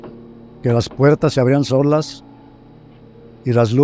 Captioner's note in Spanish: Puerta se abre sola